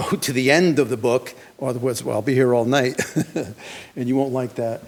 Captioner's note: chuckles